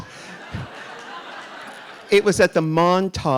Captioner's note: audience laughing